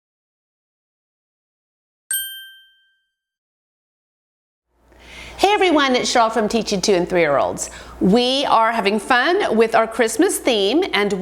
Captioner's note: ding